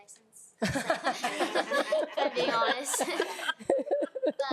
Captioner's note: laughing